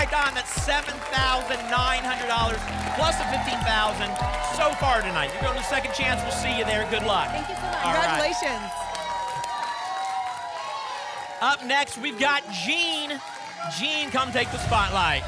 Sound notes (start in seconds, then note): 10.0 applause and cheering